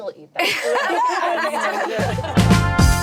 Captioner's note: laughing; upbeat music